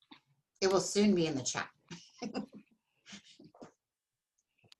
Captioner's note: chuckles